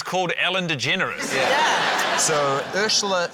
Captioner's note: laughter